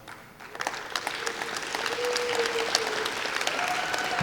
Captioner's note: clapping